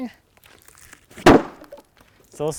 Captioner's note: wood thuds